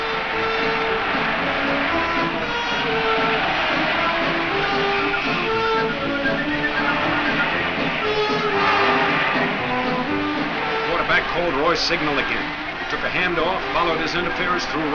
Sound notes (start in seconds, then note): 0.2 crowd cheers; 4.8 whistle blows